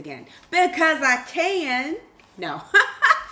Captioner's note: laughs